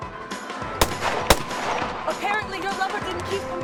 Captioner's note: gunshots popping